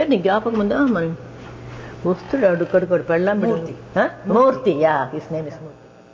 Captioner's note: slide carousel sound